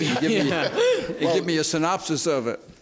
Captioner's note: laughter